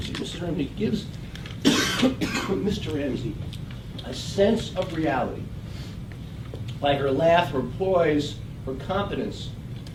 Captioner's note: cough